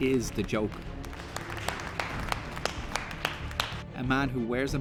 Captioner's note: clapping